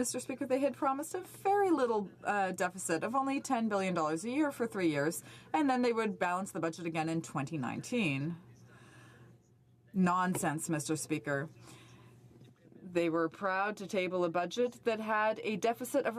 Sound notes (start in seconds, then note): 3.8 speaking french